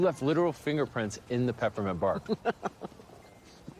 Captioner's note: laughs